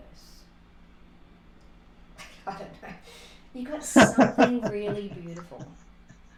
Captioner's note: laughter